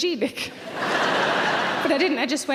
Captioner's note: audience laughs